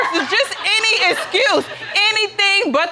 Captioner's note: audience laughing